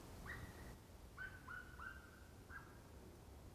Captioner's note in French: Chants d'oiseaux